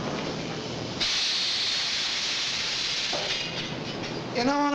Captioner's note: machinery rattling